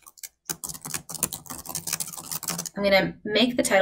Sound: keyboard clanking

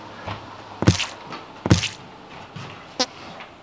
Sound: thumping

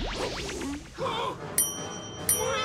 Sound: both gasp

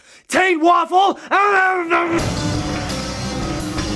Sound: muffles like Cookie Monster as he stuffs doughnuts into mouth; metal guitar riff

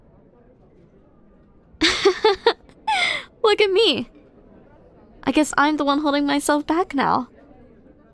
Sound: laughs

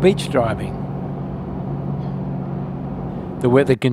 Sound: vehicle sounds

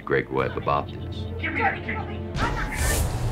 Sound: yelling

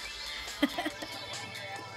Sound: laughing

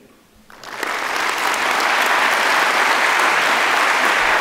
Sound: audience clapping

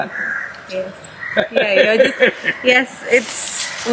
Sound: Sadhguru laughs

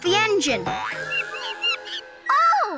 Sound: monkey screeching

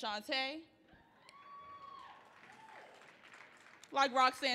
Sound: audience clapping

